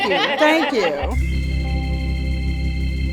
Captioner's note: laughter